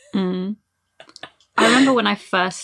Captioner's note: laughs